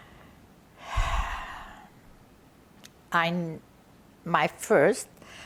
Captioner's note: sighing